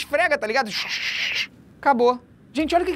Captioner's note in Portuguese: shshshshsh